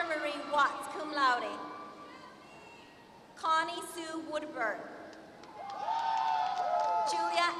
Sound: applause

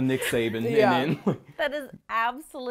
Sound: chuckles

